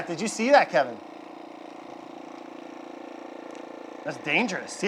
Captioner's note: Nutrichef roaring